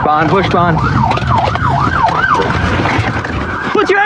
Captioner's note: sirirenens wawaililing